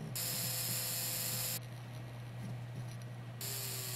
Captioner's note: buzzing